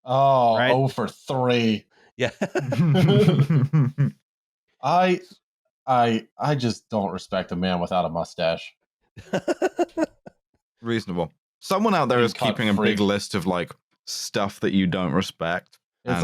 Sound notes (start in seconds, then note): 2.3 laughter; 9.2 laughs